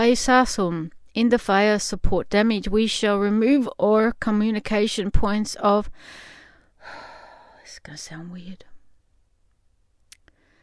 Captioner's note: sigh